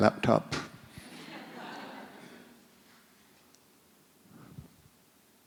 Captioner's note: audience laughs